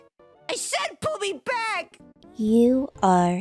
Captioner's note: yelling